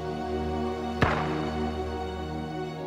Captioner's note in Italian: Colpo di pistola